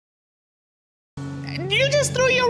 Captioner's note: audience exclaiming